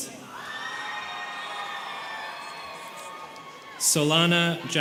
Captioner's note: students cheering